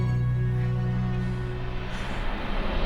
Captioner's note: panting